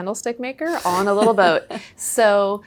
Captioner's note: laughing